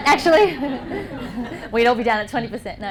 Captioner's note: laughter